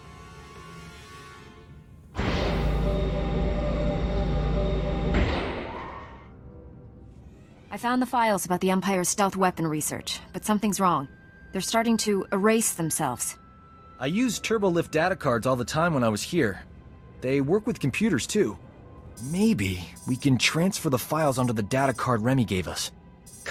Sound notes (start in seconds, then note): 2.3 lift ascends